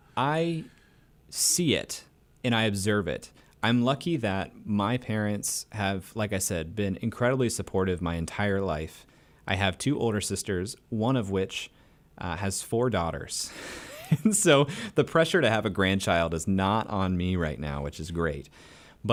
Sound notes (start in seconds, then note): 13.7 laughs